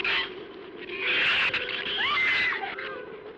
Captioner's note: screams